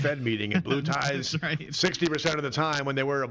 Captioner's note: laughs